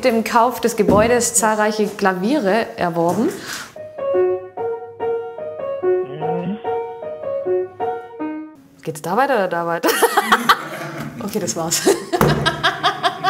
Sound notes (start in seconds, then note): 3.8 cheerful music; 11.7 laughter